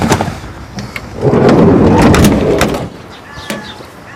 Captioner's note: car door closing